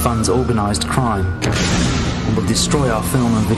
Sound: explosion

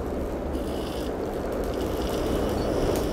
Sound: whirring

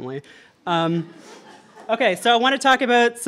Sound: audience laughter

